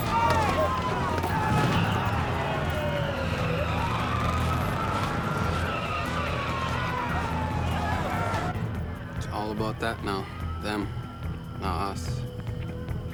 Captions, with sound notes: - Let me go! - Hey, hey! (tires screeching) (sirens wailing) - It's all about that now. Them, not us.